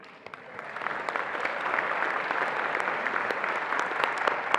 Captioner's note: attendees applauding